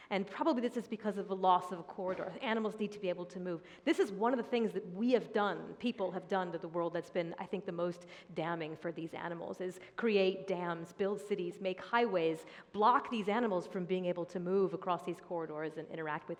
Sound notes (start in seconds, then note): none